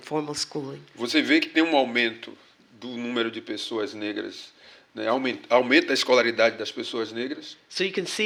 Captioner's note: speaking portuguese